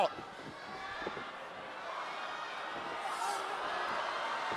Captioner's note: audience shouting